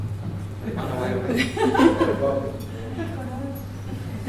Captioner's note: laughter